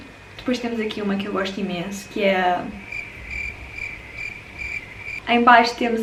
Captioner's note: nervous hmming; cricket noises